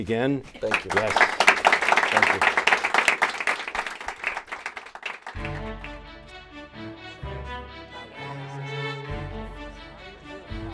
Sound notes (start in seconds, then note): 3.2 applause; 5.3 string music playing